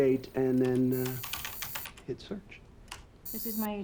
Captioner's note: keyboard clacking